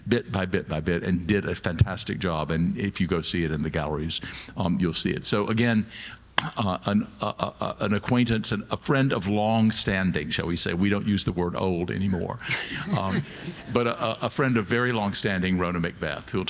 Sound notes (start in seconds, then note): 12.4 all laughing